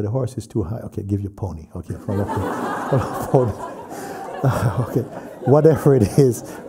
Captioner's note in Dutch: gelach